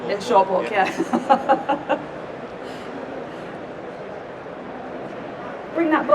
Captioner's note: laughs